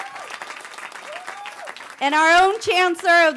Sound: cheering

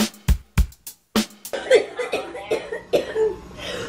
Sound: coughing

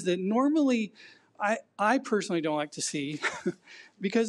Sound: chuckles

